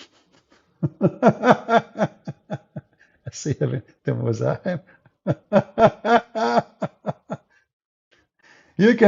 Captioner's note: Ketawa